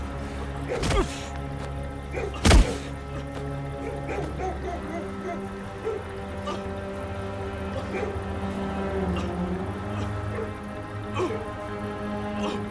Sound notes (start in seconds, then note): 7.6 Bao can be heard struggling to breathe